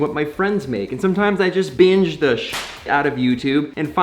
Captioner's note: whip snapping